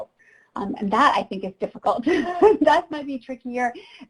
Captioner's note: chuckles